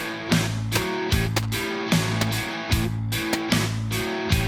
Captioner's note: gun firing